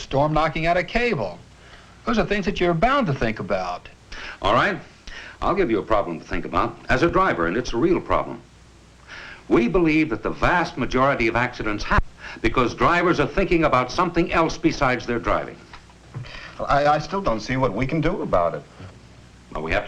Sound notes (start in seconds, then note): none